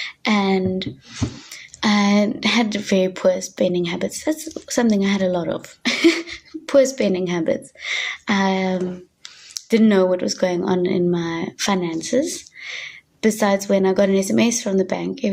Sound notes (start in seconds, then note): 5.8 chuckling